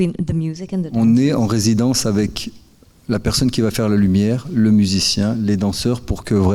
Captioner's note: speaking in French